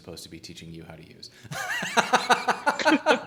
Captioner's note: laughing